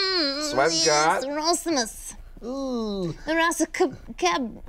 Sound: murmurs

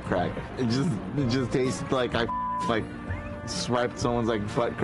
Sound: beep

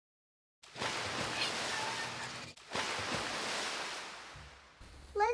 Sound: water splashing

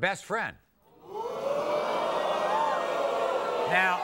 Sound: audience boos

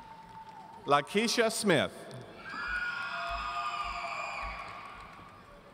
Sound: audience cheering

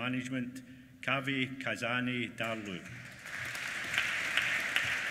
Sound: applause

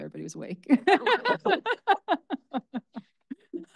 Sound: laughing

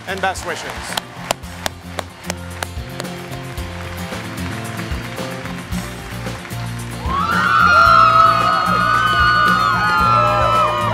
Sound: cheering

